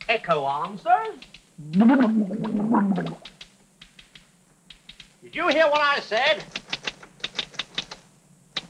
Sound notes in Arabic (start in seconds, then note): 1.6 غرغرة